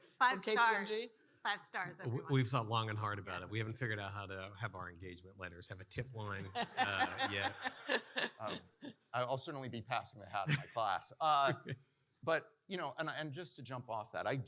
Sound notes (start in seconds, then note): 5.9 participants laughing